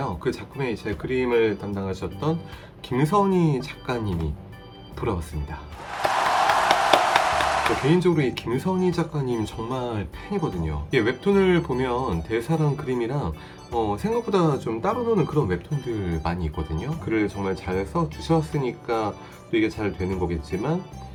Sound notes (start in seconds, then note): 5.8 applause